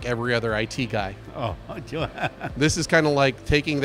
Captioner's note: laughs